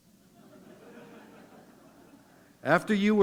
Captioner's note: laughter